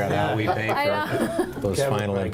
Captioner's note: laughs